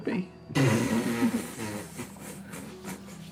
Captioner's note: laughter